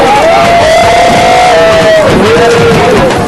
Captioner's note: people cheering